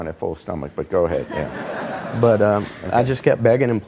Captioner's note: audience laughing